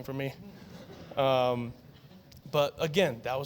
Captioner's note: laughter